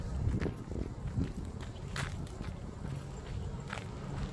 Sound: footsteps crunching

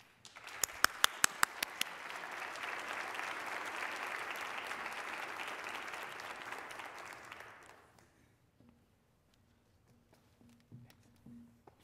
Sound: applause

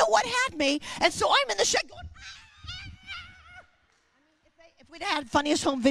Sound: screaming

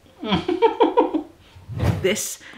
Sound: laughing

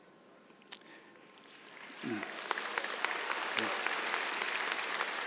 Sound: cheers, applause

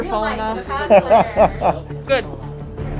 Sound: laughs

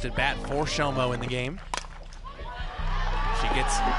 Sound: ball connecting with bat

